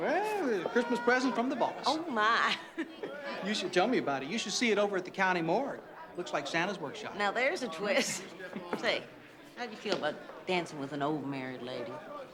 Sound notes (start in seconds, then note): 8.2 chuckles